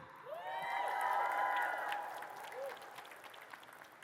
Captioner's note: audience cheers